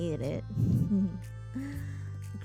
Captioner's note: laughs